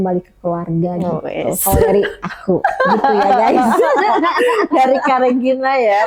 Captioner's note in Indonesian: tertawa